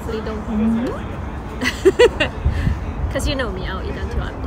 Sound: laughs

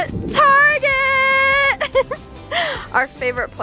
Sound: laughs

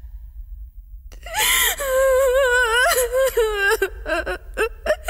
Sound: crying

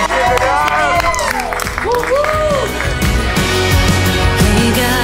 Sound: crew cheering

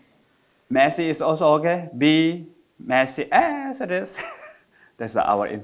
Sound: laughs

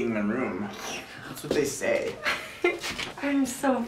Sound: both laugh

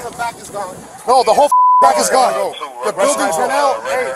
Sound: beeping

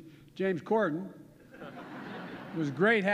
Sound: laughter

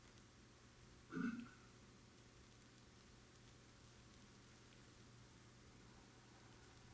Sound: audience member clearing their throat

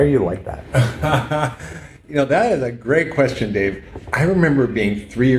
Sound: laughs

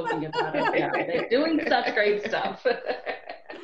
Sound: laughter

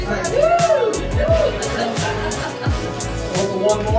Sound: cheers

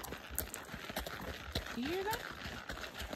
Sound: clip-clop clip-clop clip-clop clip-clop; clip-clop clip

